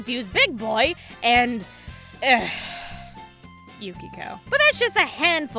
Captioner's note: sigh